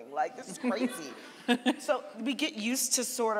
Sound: audience laughing

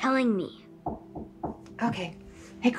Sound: door knocking

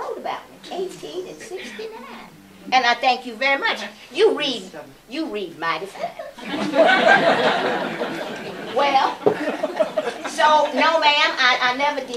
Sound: laughter

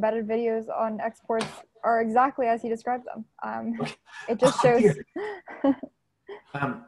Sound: laughter

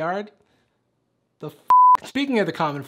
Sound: beep

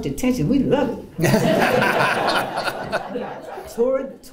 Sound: laughter

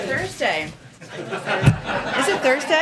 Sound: laughter

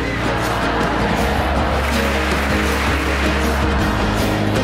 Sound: crowd cheering; bright music

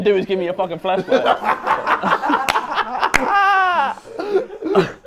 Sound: Sidemen laughing

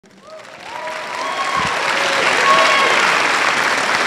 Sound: audience applauding

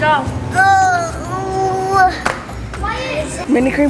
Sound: moaning

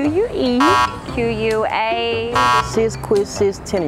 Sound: buzzer beeping; buzzer beeping

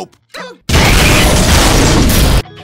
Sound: blammo!

